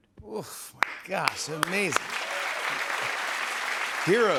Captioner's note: applause